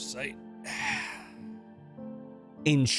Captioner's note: sighs